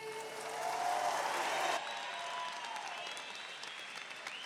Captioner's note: audience applauding